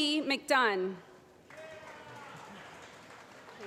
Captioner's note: applause